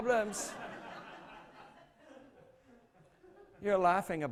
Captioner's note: laughter